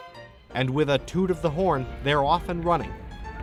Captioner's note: toots boat horn